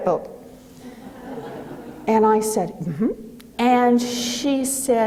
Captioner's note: audience laughing